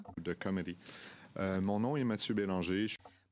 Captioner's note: speaking French